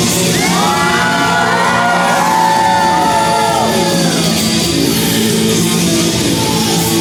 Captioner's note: cheering for the sexy lady